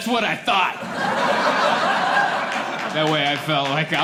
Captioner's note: laughter